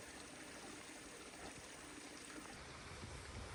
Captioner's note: sounds of nature